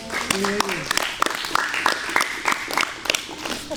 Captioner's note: applause